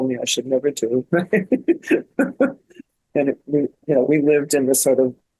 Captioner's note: laughing